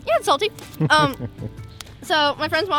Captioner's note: laughs